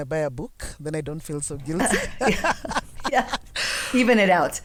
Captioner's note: both laugh